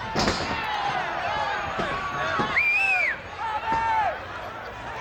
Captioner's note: audience cheers